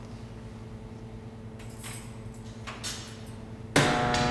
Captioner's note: keys jingling; door unlocking